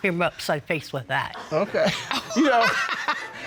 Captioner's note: Judge Dana laughing